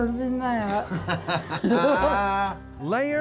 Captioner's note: laughing